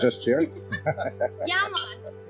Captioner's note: laughing